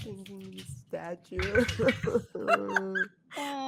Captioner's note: dice rattling; giggling